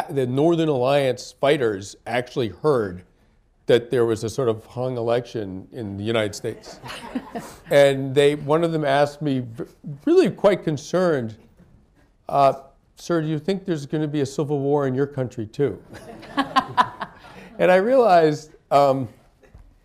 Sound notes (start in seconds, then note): 6.6 laughter; 15.9 laughter